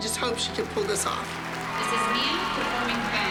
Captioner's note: cheering and applause